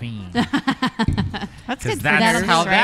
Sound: laughs

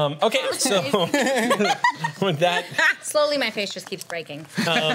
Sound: laughs

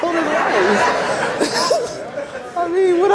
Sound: audience laughs

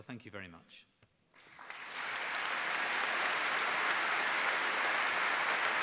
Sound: applause

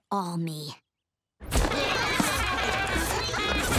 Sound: laughing

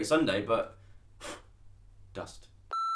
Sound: blows

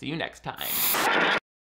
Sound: static buzzing

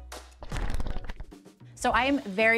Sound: pages fluttering

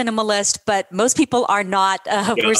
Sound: laughter

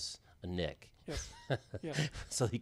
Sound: laughing

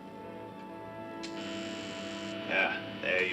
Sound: buzzing

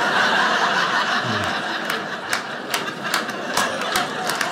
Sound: audience laughing

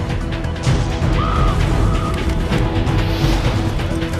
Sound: screaming

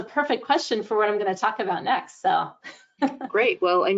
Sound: chuckles

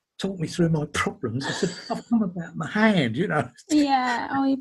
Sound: laughing

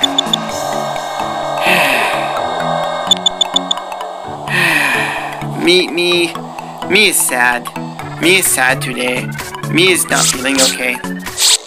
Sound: sighs; sighs again

